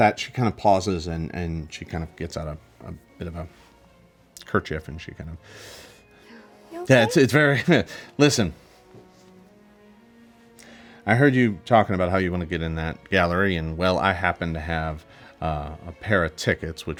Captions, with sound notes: At that, she kind of pauses and she gets out a bit of a kerchief and she kind of (inhales) - You okay? - Yes, it's very... Listen. I heard you talking about how you wanna get in that gallery, and well, I happen to have a pair of tickets